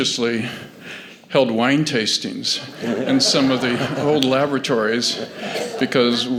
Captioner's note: laughter